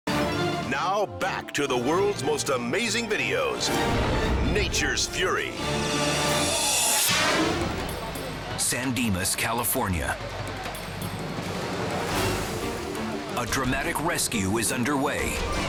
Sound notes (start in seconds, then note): 6.6 air whooshes